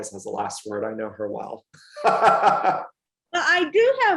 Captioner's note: laughs